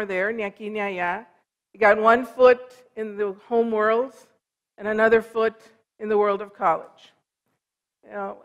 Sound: foreign language

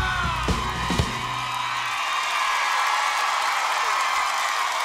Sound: applause

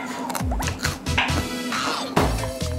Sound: chewing a carrot slice

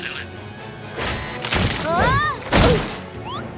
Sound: groaning

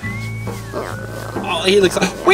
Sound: fake eating noises

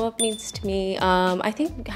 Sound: bell dinging

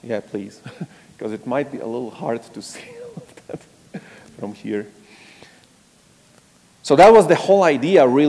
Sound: laugh

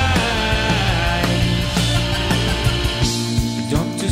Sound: bleepybloopy

